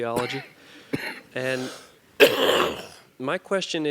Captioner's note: cough